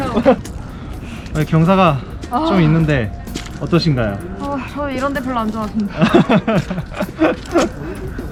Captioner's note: sighs